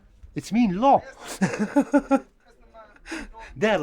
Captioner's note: laughs